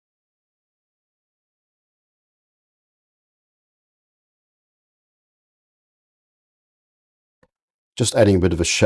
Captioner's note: silence